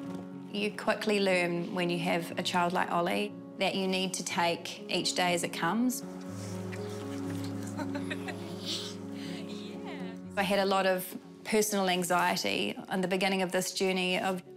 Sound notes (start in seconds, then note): 6.7 chuckles